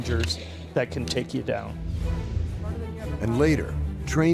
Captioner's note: voiceover